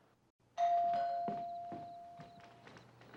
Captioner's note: doorbell rings